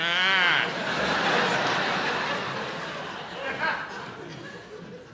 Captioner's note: audience laughs